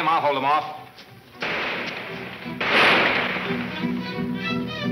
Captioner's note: gunshots banging